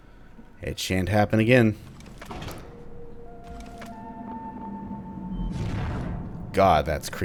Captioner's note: Dissonant "Number Disconnected beeps, shadow ball humming